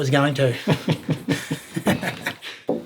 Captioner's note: both laugh